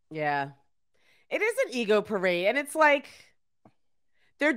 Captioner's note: none